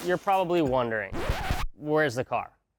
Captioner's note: vinyl record suddenly stopping